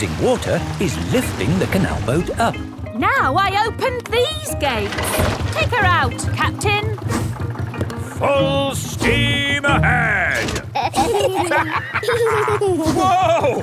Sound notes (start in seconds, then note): 10.3 lever clangs; 10.6 kids and captain dog laughing